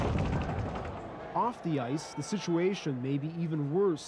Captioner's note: boards rattle